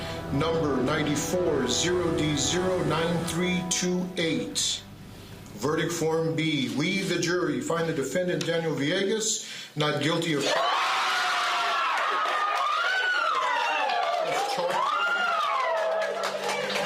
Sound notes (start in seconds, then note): 10.4 screaming and cheering